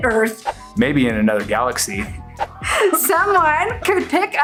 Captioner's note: laughs